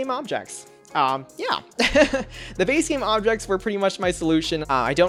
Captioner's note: laughs